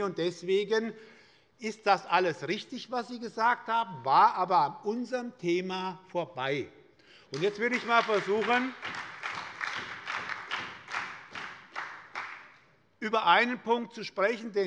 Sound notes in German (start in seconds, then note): 7.3 Beifall bei der SPD